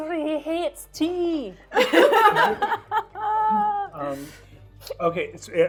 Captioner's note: laughing